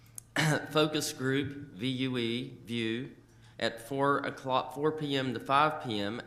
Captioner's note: coughs